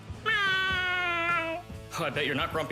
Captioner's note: mewing